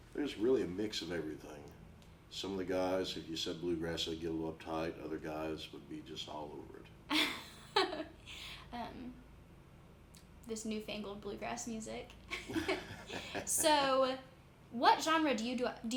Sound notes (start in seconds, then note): 7.1 laughs; 12.3 both chuckling